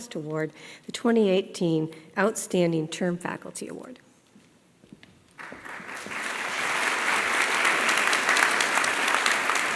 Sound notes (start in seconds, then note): 5.3 applause